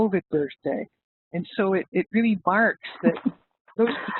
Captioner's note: laughs